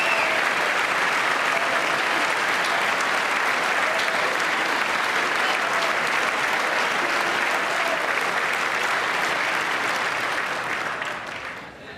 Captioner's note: applause